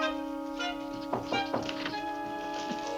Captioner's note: knocking on door